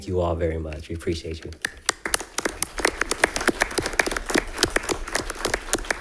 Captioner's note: people applauding